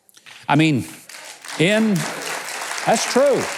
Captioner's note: audience applauds